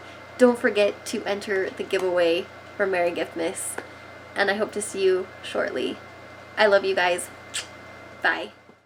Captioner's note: kiss